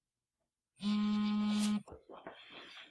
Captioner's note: phone vibrates